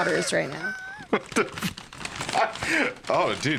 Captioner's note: laughing